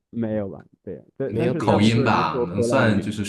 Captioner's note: a specific accent